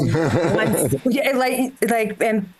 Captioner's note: laughs